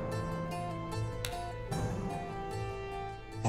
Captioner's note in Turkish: Vurma sesi